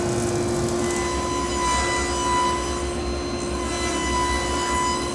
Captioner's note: table saw whirring